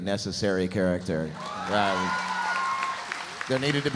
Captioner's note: audience cheering